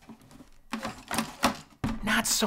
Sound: computer rattles

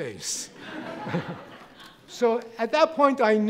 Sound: audience laughing

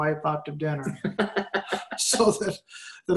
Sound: laughing

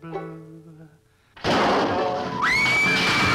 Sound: gila monster banging; party goers screaming

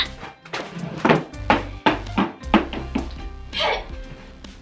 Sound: chair crashing

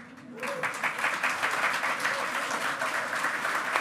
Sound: loud clapping

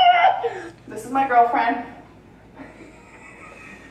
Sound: laughs

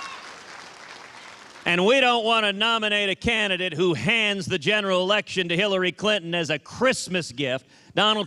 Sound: applause

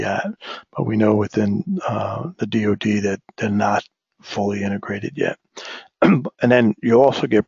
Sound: cough

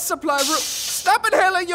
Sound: inhales some gas

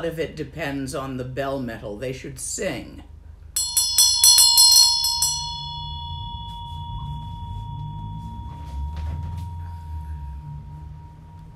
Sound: rings bell

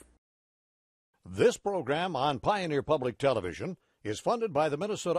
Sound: voiceover

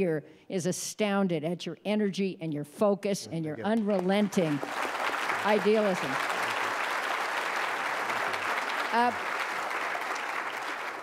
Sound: applause

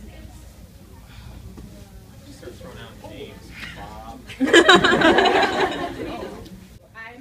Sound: audience laughter

